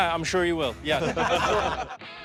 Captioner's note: laughter